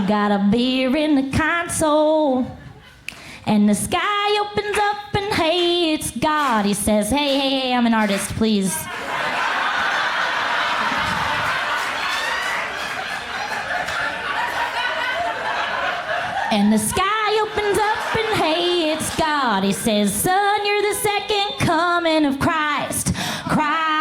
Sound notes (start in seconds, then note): 6.4 crowd claps along; 10.8 clapping stops